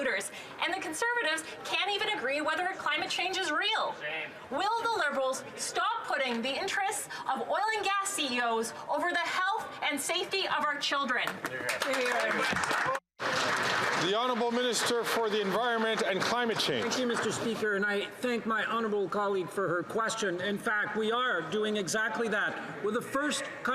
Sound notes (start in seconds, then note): 17.0 some Applause